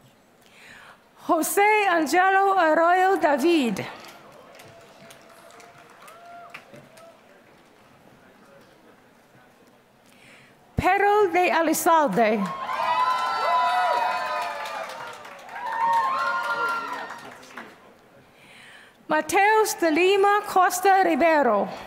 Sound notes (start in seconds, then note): 3.9 applause; 12.3 applause